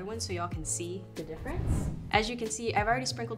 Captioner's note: whoosh sound